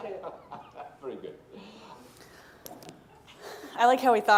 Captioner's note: laughing